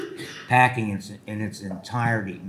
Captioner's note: attendee coughing